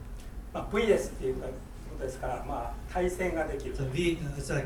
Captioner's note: speaking in foreign language